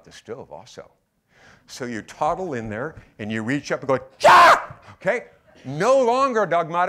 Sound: shrieks

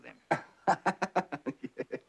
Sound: laughs

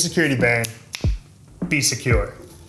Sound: snaps fingers

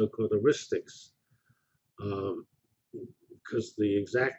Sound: pause

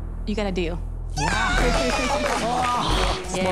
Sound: applause

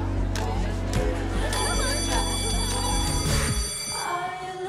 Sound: bell rings

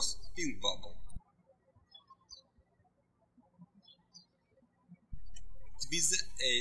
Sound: birds chirping

